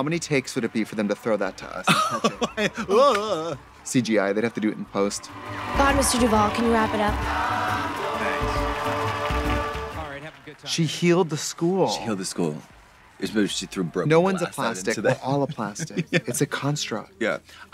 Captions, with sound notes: How many takes would it be for them to throw that to us? (giggles) (makes cartoon fumbling sounds) CGI, they'd have to do it in post. - God, Mr. Duvall. Can you wrap it up? (students cheering) (triumphant music) - Thanks. - She healed the school. - She healed the school. She threw broken glass out into the- - No one's a Plastic. We're all a Plastic. It's a construct. - Yeah.